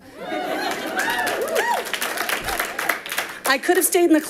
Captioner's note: audience applauding